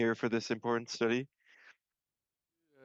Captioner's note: speaking French